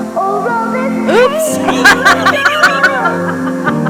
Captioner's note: laughs